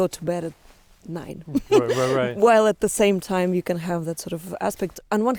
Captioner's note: laughs